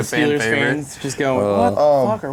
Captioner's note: laughing